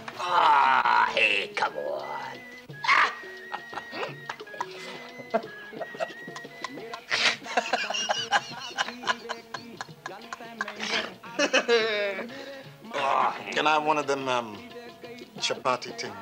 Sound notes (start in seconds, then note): 2.8 Charlie laughs